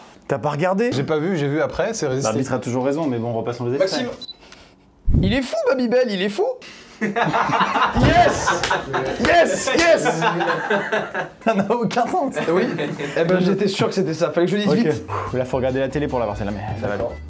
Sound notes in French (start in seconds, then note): 6.9 rires